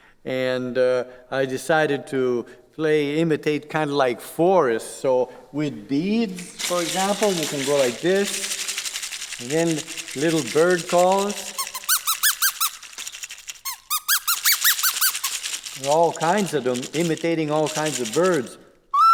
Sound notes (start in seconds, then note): 8.2 beads rattle; 11.5 instrument squeaks; 18.9 instrument whistles